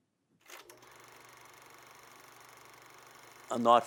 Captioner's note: camera clicking